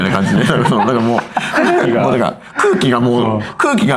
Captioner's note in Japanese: 笑い